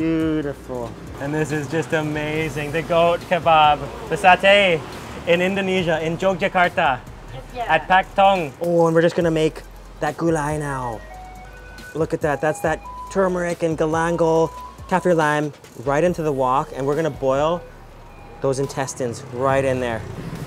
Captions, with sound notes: Beautiful. And this is just amazing. The goat kebob, the sate. In Indonesia, in Jogjakarta. (both speaking in foreign language) Oh and we're just gonna make that gulai now. Look at that, that's that tumeric and galangal, kaffir lime. Right into the wok. And we're gonna boil those intestines right in there.